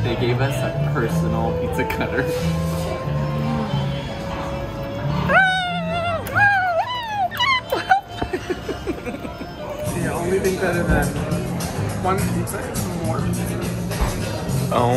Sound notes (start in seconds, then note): 5.3 yelling; 8.9 laughs